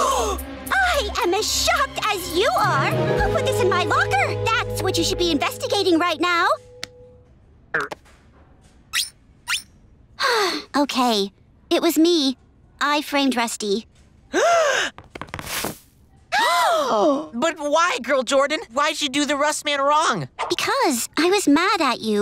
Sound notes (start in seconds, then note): 9.6 sighing; 14.4 gasping